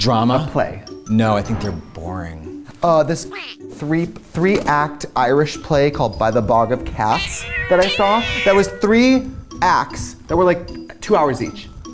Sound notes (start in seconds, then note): 7.0 cats yowling